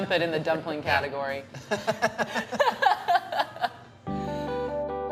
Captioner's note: laughing